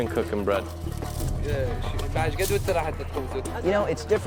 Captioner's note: interpreter speaks to woman in Arabic